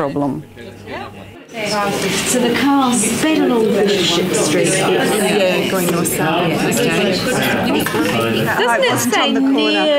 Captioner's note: audience chatter